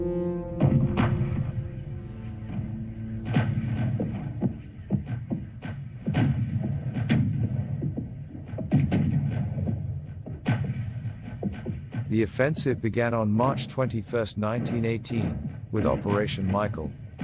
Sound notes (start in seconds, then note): 0.6 artillery firing